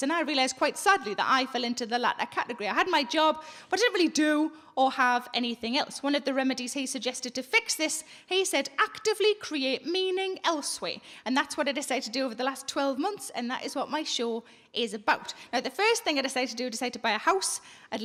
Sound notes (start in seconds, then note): none